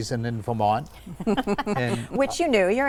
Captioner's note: group laughs